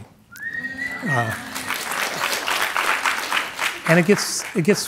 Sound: audience whistling and clapping

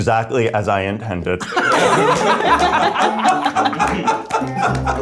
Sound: everybody laughs

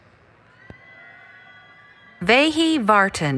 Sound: cheering

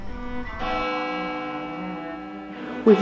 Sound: bells ringing

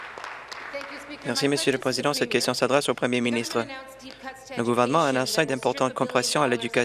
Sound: some Applause

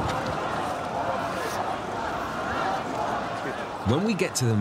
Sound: crowds chanting

